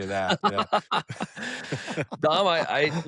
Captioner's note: laughter